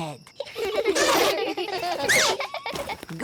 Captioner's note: all giggling